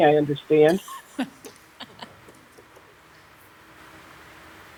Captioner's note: women laugh